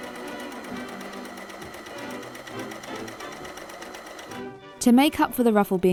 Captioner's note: overlocker whirring